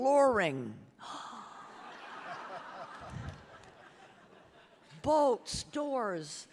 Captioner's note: audience laughing